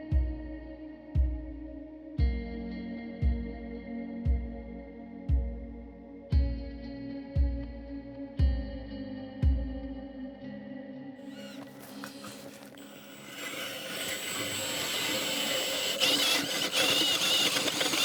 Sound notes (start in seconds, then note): 0.3 gentle music; 10.7 gentle music continues; 13.6 drill whirring